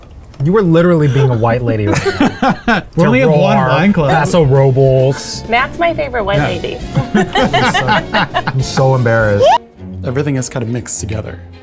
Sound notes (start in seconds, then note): 6.9 laughing